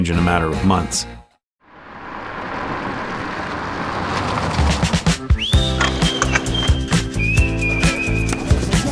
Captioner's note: tires Rolling Over Pavement